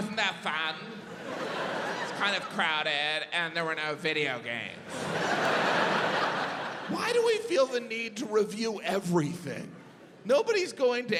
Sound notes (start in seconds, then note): 0.0 audience laughs; 4.8 audience laughs